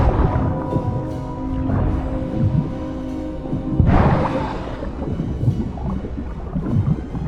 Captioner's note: siren groans painfully and musically